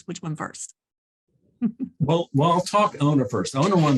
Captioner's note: chuckles